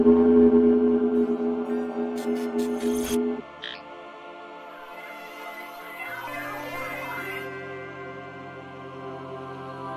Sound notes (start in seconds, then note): 0.6 sonic ray